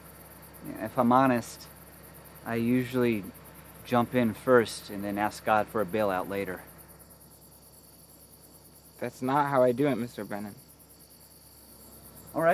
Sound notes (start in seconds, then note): 8.0 insects chirping